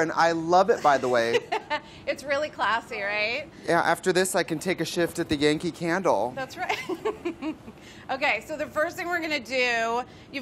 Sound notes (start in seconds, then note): 0.8 laughs; 7.5 laughs